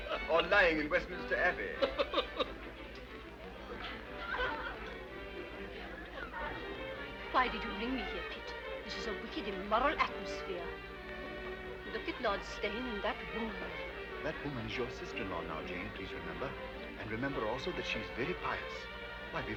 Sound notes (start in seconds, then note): 0.0 laughs; 1.7 Joseph laughs; 4.2 people chattering; 4.2 soft orchestral music